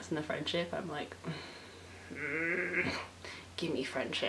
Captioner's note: groans